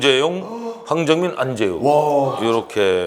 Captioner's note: eh